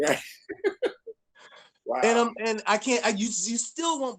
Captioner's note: laughs